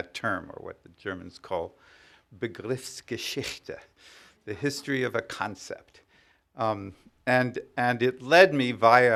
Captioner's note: speaking german